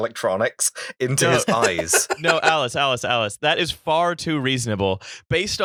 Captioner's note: laughter